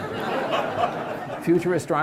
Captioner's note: audience laughs